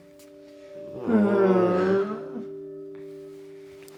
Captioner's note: groans together